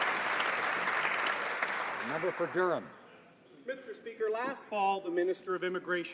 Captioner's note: some Applause